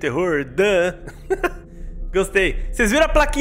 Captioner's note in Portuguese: Risos